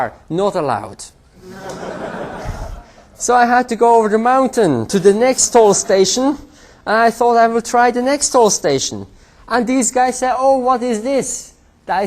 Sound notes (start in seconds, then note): 1.4 laughter